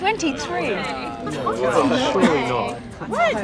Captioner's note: all exclaim